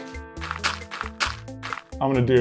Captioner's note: dirt crunching